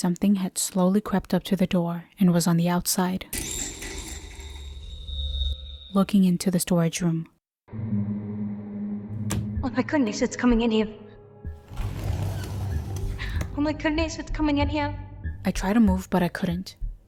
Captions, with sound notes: Something had slowly crept up to the door...and was on the outside.... ...looking into the storage room. [impact] Oh my goodness, it's coming in here. [Door swing open] Oh my goodness, it's coming in here. I tried to move, but I couldn't.